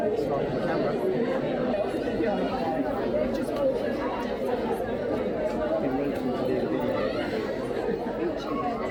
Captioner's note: crowd chattering